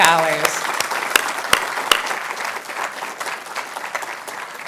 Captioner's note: audience applauding